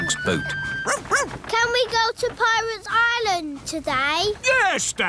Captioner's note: barks